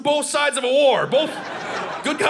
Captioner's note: audience laughing